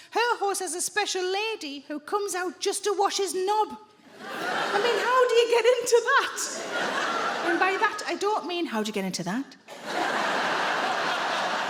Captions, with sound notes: Her horse has a special lady who comes out just to wash his knob. I mean, how do you get into that? And by that, I don't mean... [IN A LUSTFUL VOICE]: "How do you get into that?"